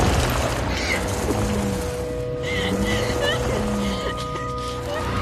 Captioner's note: engine revving; sobbing; wheels spinning